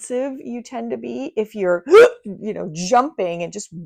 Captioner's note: gasping